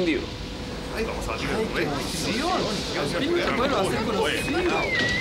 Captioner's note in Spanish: Gente conversando emocionada